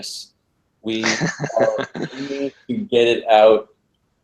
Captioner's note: laugh